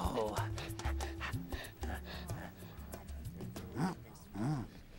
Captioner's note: panting